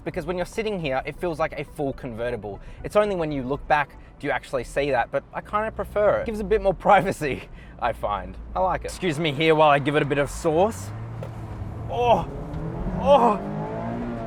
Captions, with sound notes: because when you're sitting here, it feels like a full convertible. It's only when you look back, do you actually see that but I kinda prefer it, it gives a bit more privacy, I find, I like it. Excuse me here while I give it a bit of sauce. (car engine revving) Oh, oh (laughs) true driver's car,